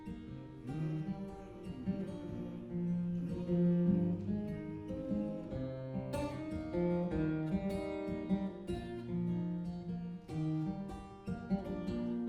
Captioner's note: humming